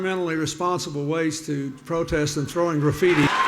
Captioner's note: audience booing